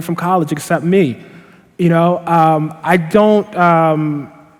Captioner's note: none